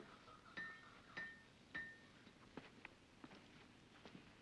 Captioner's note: metal clanking sound